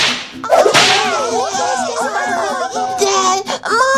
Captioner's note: family exclaiming